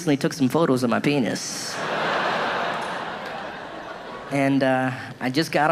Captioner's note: audience laughing